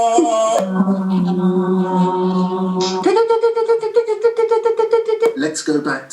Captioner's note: baritone voice breaks the space, 'Aah', jumping an octave; multiple chanting voices, Staccato Bird-like noise returns